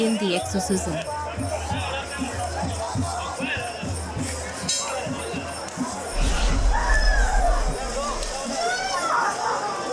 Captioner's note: chaotic commotion